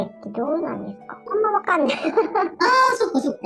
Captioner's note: laughs